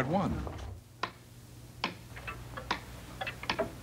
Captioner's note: clocks ticking